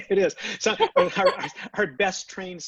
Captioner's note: laughs